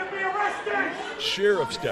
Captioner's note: yelling